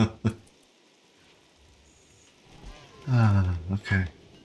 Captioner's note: chuckles